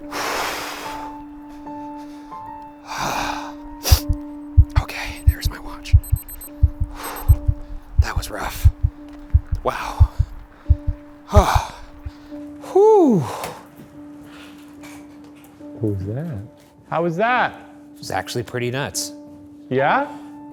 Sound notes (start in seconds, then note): 0.2 breathing heavily; 6.9 watch beeping; 10.5 heart beating; 11.5 breathing heavily; 13.8 spooky music